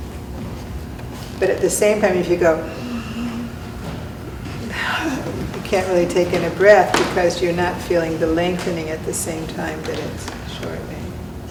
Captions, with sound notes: But at the same time, if you go (inhales, holds, then exhales) you can't really take in a breath because you're not feeling the lengthening at the same time that is shortening.